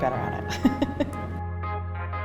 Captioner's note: laughs